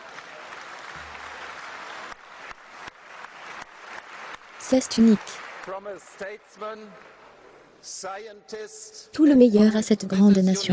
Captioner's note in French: Applaudissements du public